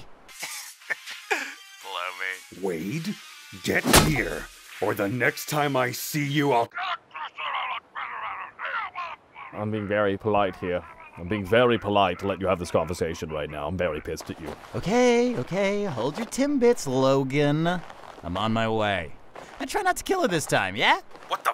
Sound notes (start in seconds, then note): 0.4 giggling over phone; 3.8 thunk!